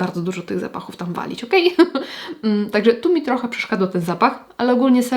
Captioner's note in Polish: śmiech